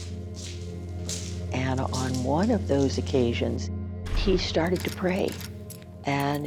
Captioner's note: keys rattling